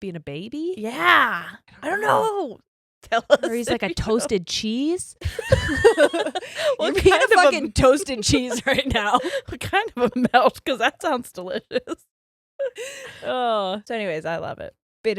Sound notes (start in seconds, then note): 5.2 both laughs